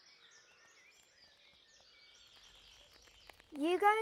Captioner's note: birds chirping